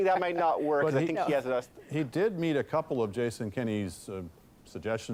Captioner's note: laughter